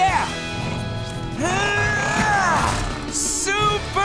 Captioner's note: grunting